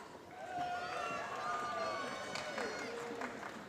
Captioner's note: applause